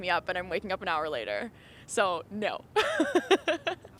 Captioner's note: laughs